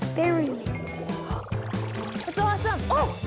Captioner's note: bubbling chemicals